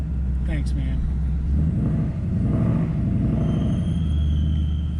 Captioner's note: engine revving